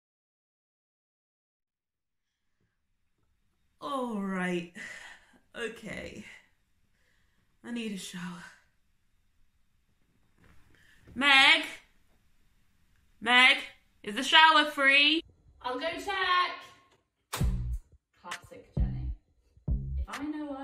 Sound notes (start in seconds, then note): 11.0 shouts